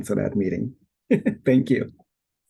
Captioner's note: laughing